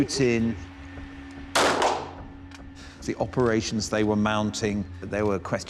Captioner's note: gun firing